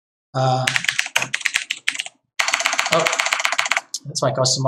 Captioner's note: keyboard clattering